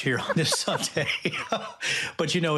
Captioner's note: laughing